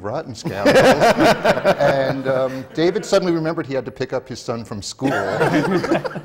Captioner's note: laughter